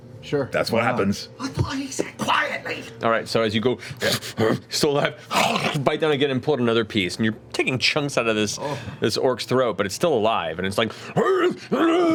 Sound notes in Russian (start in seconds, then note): 5.3 рычит; 11.7 кричит